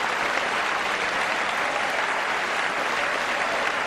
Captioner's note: applause